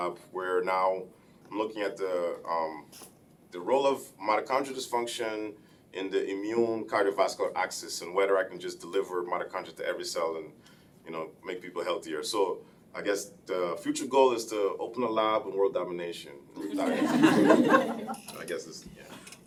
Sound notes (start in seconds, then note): 16.6 laughing